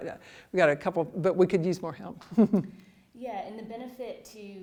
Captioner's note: laughs